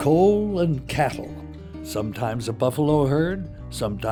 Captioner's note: voiceover